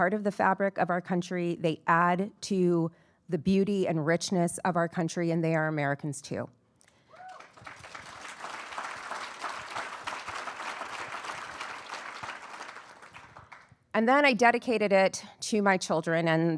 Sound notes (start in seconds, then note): 7.1 attendees cheering and applauding